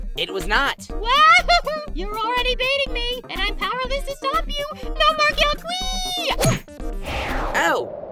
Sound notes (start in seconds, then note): 1.1 laughs